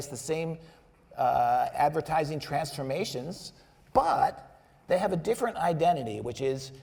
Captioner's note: none